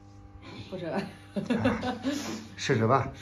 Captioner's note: ha ha ha ha